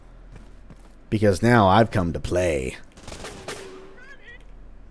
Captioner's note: Roamer gunfire